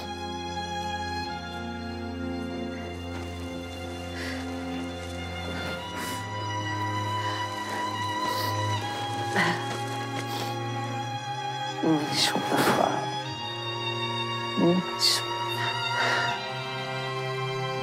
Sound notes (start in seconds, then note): 12.0 speaks in foreign language